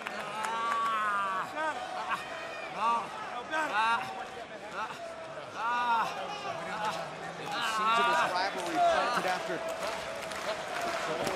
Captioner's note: crowd chatter